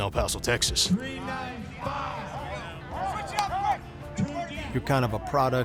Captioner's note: football team chatter